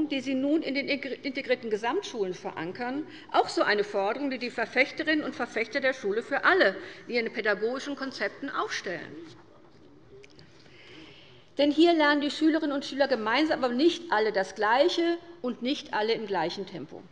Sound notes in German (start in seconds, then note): none